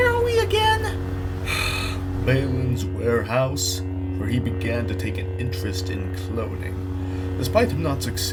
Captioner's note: sighs